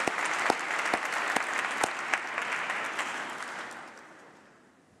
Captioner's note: applause